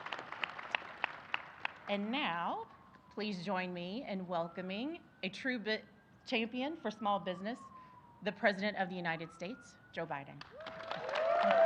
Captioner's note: applause